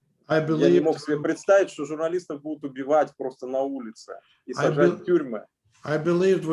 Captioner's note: speaking Russian language